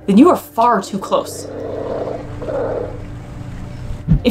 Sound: background music; sea lion vocalizations

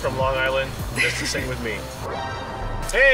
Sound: laughs

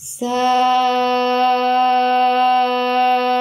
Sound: chanting

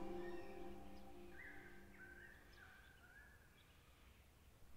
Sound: birds tweeting

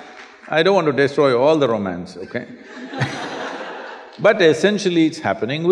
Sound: laughter

